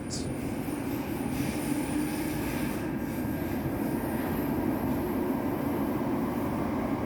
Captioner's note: train accelerating sounds